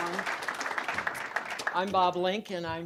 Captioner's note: applause